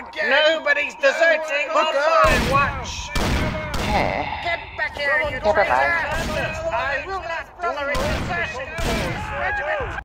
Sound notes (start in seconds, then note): 2.1 screams, shots, possible heresy